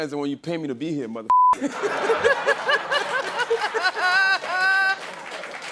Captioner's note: laughter